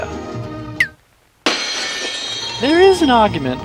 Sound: shatters

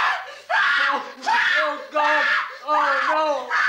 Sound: Sandra screams

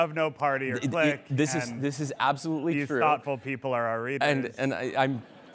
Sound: laughter

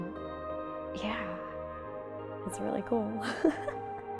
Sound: laughs

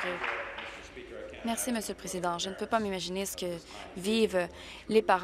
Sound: applause

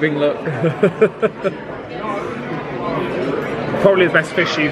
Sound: laughs

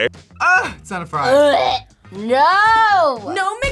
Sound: gags

